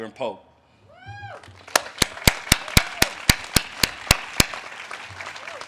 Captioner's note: audience cheers and claps